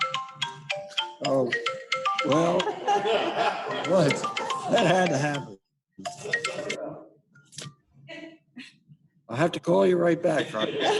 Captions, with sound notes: thing to do believe it or not. [Phone trilling]